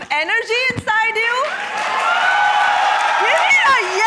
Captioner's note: applause